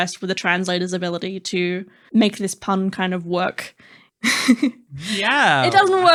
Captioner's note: laughing